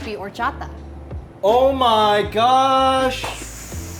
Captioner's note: Megan exhales heavily